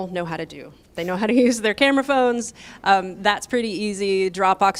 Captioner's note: laughter